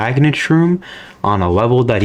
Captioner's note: inhales Oxygen